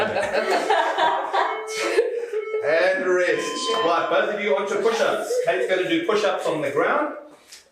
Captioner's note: laughter